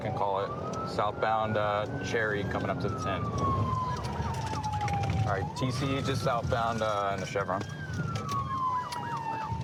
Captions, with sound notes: I can call it southbound Cherry coming up to the 10. [sirens] All right. TC just southbound in the Chevron.